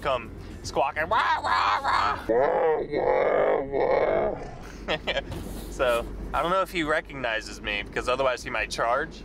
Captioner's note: squawking noises